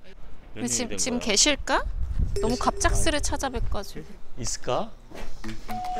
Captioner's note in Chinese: 门铃响起